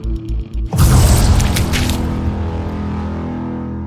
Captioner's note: squelching explosion, body parts splashing